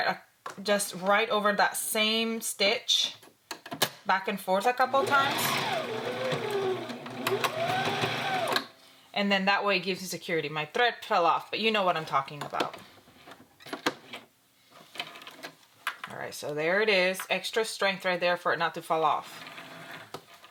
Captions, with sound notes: just right over that same stitch, back and forth a couple times. (sewing machine whirs) And then that way it gives you security. My thread fell off, but you know what I'm talking about. Alright, so there is it. Extra strength right there for it not to fall off.